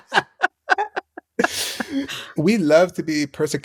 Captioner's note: laughter